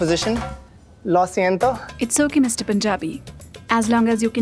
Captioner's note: speaking Spanish